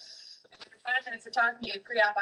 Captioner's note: fast Spoken Woman